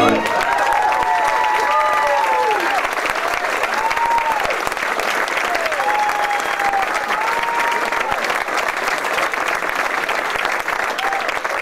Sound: applause and Cheering

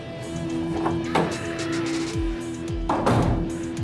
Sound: door opening; door closing

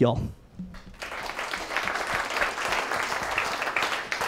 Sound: applause

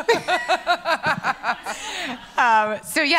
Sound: laughs

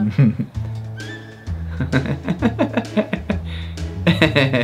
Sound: laughing

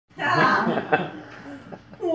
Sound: crowd laughter

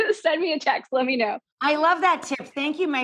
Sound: laughing

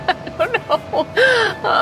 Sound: laughing

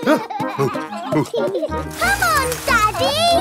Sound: panting; peppa and george laughing

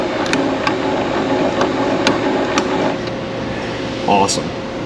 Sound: machine spinning

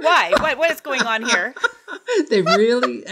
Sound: laughs

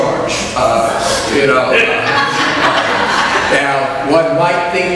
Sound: audience laughs

